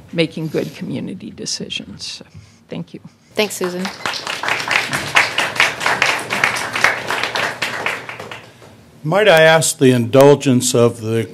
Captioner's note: applause